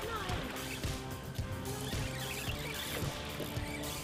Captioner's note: splash